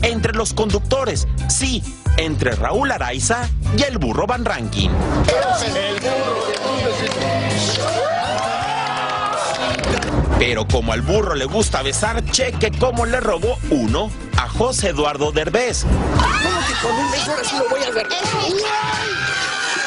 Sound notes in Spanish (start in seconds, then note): 3.5 gritos